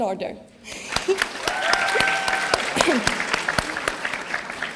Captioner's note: audience applauding